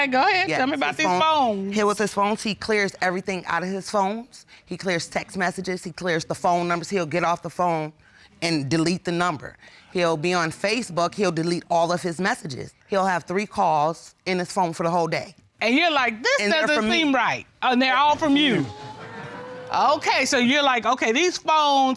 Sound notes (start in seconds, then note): 18.1 audience exclaims